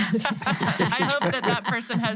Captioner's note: all laughing